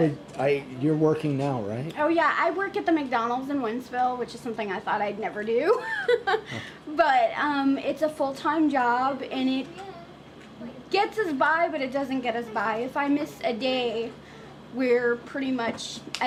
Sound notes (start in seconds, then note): 5.8 laughs